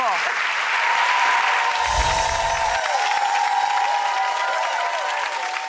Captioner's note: audience applauding and cheering